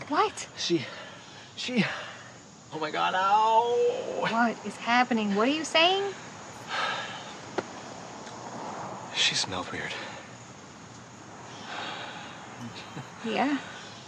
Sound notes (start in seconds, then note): 0.6 out of breath; 6.6 exhales